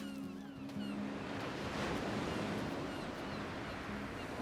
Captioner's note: waves crashing, seagulls cawing